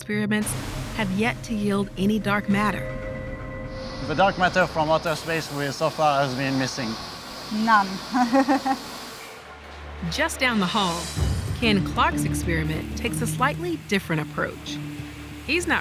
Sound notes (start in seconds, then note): 8.0 chuckles